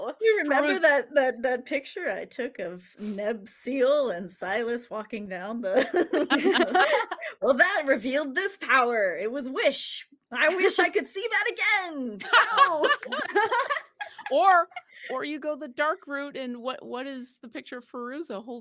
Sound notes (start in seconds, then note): 5.8 all laughing; 12.2 all laughing